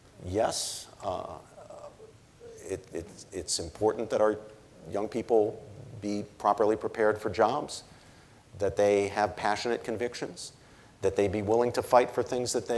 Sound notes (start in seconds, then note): none